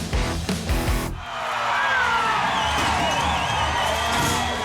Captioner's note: crowd cheering